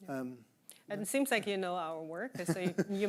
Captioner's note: chuckling